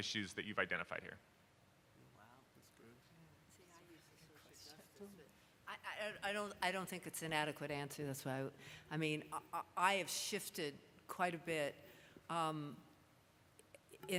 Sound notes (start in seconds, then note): 2.8 speaking off mic